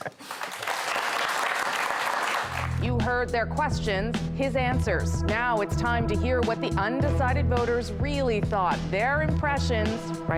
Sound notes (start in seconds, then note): 1.0 laughter; 1.9 applause